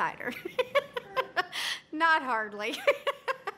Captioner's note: laughing